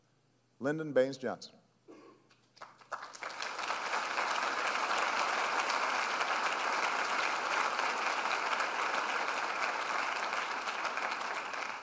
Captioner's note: applause